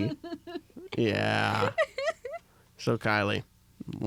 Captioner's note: laughs